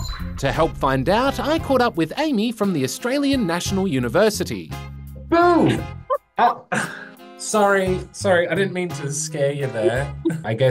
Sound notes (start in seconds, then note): 5.6 laughs